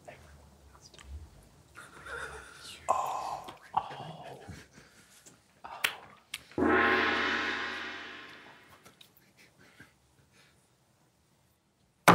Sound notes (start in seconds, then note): 6.6 gong banging; 8.4 group quietly snickering